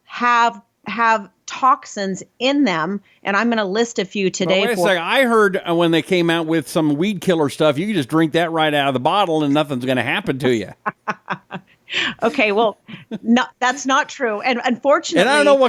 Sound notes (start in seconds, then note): 9.3 laughs